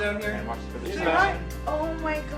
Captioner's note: people chattering